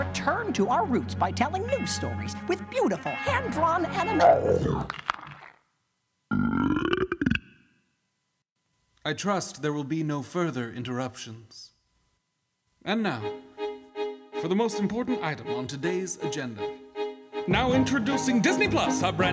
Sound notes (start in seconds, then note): 4.2 Jabba growling; 6.3 Jabba burping